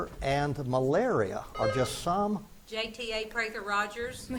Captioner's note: buzzer beeps